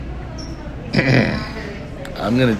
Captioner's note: coughs; laughs